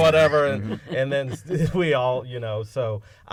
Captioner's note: laughter